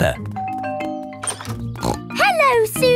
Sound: doorbell rings

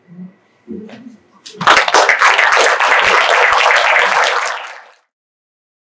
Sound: applause

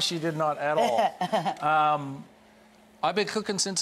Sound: Rachel laughing

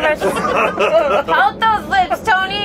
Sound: laughing

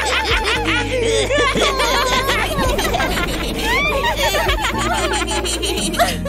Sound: blows

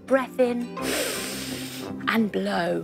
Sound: inhaling

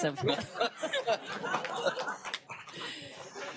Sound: applause and laughter

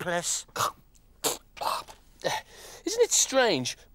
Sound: Groove coughs

